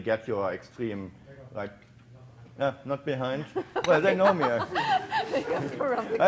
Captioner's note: audience laughing